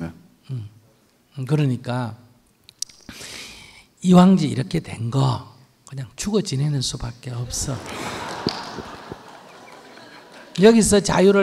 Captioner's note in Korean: 청중 웃음